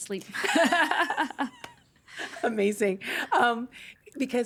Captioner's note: laughing